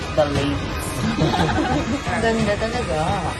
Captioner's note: chuckles